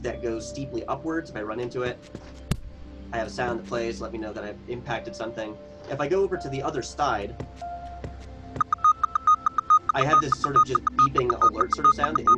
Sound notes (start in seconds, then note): 7.4 footsteps thudding; 8.6 switch beeping